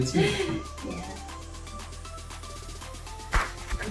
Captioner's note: woman laughs; upbeat music